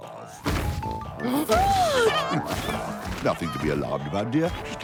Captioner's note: giggles